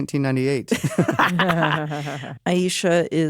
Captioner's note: laugh